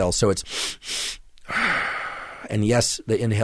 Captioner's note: breathing